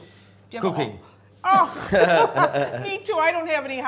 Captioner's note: laughing